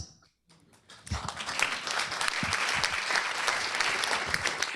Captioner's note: applause